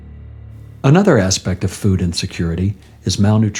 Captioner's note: voice-over